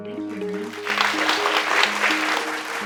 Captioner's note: crowd claps